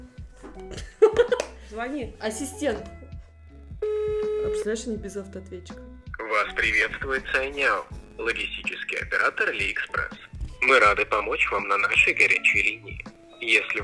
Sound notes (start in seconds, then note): 0.6 laughs; 3.8 beeping